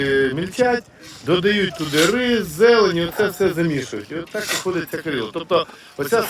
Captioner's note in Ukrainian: сопіння